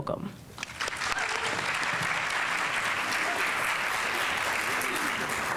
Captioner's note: audience applauding